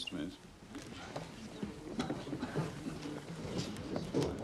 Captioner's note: Penonton bergumam